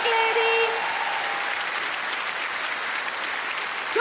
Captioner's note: audience clap